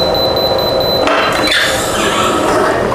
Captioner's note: beeping sound; press machine sound